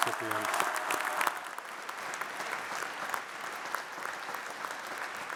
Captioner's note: audience applauds